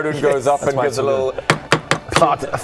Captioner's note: knock knock knock